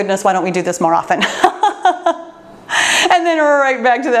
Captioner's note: laughs